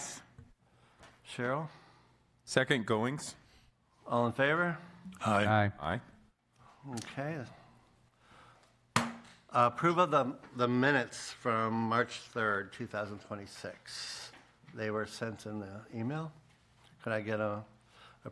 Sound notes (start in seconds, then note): 9.0 bangs gavel